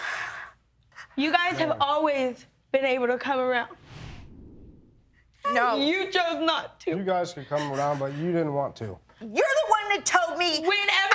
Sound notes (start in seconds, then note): 7.5 sobbing